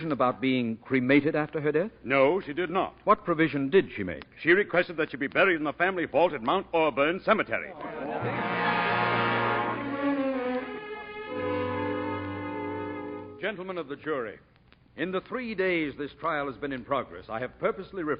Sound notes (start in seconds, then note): 7.8 audience laughing